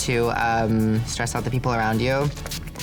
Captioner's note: water spraying